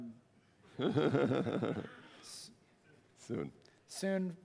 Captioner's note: laughter